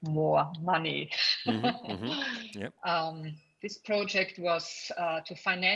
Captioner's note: laughs